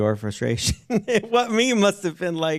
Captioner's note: chuckles